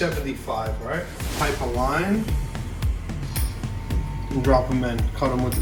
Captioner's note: air whooshes